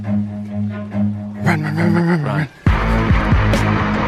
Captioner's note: whispering